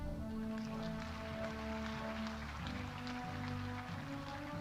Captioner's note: audience applauding